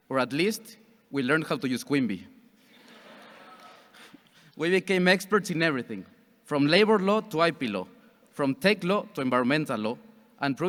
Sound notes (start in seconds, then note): 2.8 audience chuckles